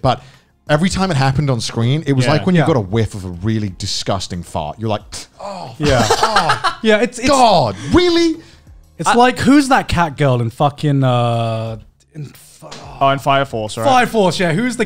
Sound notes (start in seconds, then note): 5.8 laughing